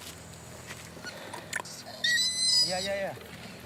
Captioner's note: orangutan squealing